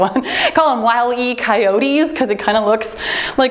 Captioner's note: timer beeps